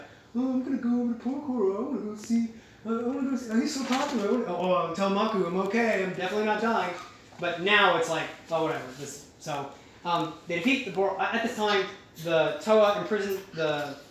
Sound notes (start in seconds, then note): none